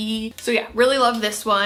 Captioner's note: fingers click